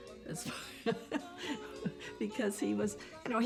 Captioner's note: laughs